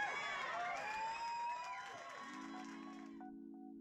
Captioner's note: crowd cheers